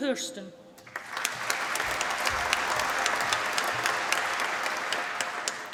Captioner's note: applause